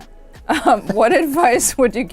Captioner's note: laughing